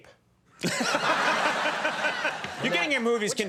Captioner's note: audience laughs